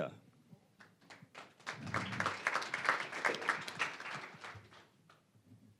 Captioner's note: applause